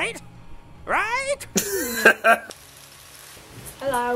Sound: laughter

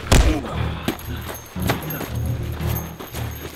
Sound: grunting

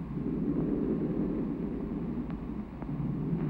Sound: thunder

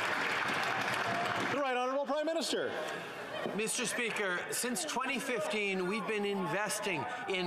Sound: applause

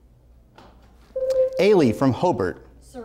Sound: buzzer sounds

